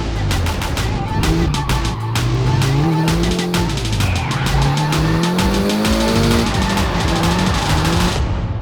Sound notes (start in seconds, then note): 0.5 tires squeal